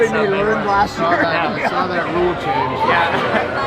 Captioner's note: laughter